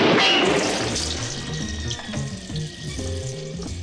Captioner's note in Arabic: رشات الماء